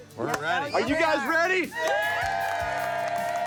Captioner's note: crew cheers